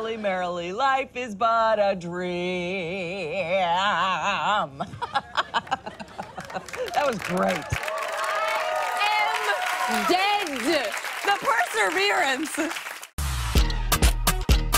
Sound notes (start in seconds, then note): 4.6 laughing; 8.6 cheers and applause